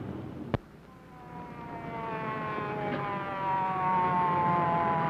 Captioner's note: siren wailing